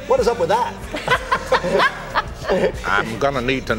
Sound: laughing

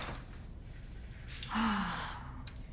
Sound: sighs

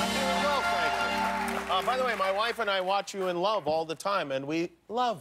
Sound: cheers and applause

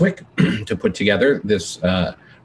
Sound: clearing throat

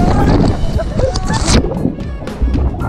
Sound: splash

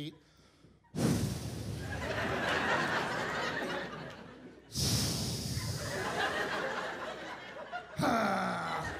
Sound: exhales; grunts

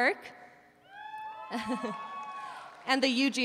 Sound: audience cheering

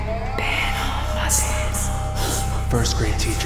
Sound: man whispering

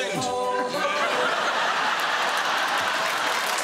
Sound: laughter

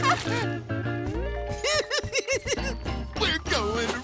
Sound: laughs; laughing

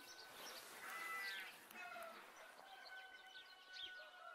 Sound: goat bleats

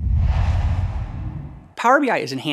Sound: logo swooshes

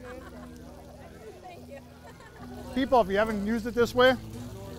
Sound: laughing

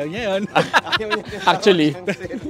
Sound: laughs

